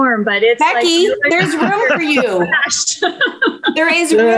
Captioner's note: laughs